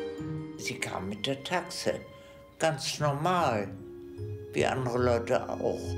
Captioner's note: speaking in foreign language